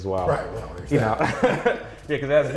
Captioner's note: laughs